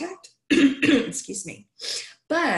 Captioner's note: clears throat